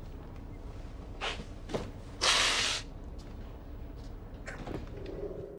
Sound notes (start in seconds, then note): 2.1 sniffles